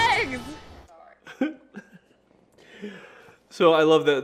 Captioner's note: laughing